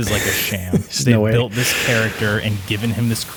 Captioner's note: chuckles; audio glitch